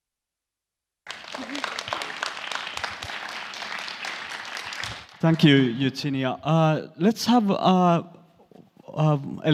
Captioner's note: aplodeja